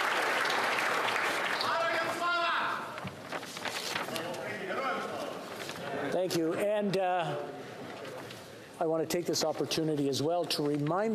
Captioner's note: applause